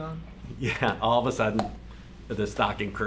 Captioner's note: popping